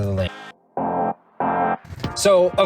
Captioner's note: car horn honking